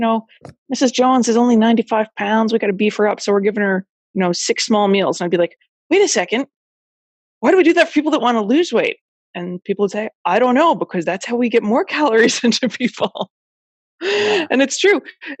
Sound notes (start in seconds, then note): 14.1 laughs